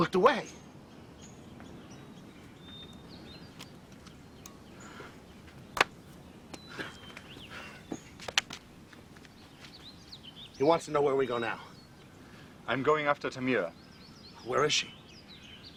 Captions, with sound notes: - You looked away. (slap) He wants to know where we go now. - I'm going after Tamira. - Where is she?